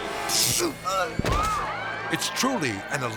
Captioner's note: electricity buzzes; grunts